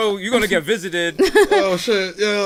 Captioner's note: chuckles